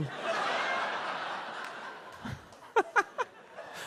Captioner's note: audience laughs